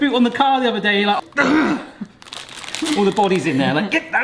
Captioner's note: mimics aggressive grunt